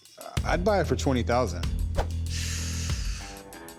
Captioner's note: sucks teeth